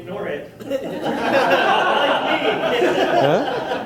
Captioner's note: audience laughter